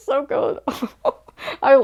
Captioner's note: laughing